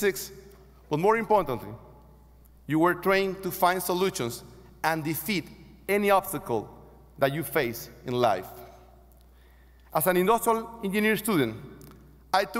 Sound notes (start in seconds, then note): none